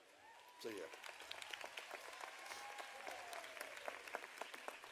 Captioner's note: audience applauding